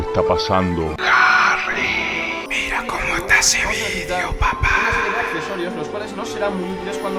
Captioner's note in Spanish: susurro